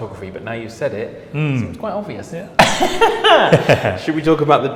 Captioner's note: laughs